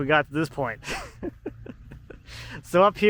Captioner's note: laughing